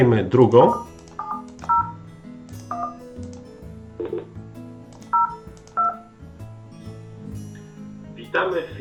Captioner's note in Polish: wybieranie... bip, bip... wybieranie